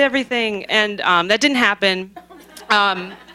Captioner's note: laughter